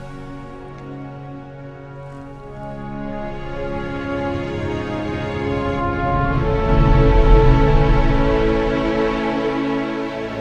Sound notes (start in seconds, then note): 1.1 ambient music; 5.9 ship humming